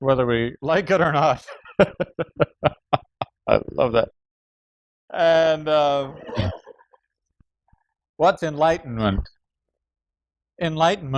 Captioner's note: laughs